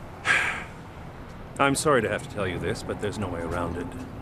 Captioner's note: sighing